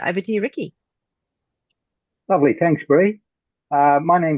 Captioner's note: Australian accent